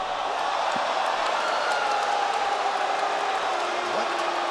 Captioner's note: crowd boos